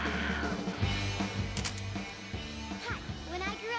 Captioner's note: shutter Clicks